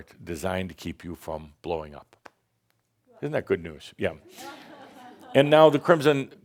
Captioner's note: some chuckles